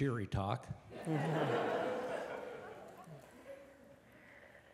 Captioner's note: laughter